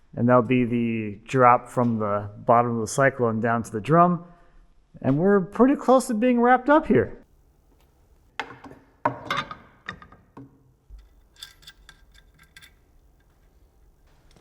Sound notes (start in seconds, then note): 8.4 metals thudding; 10.8 screw clinking